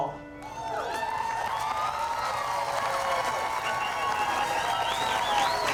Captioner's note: audience clapping and cheering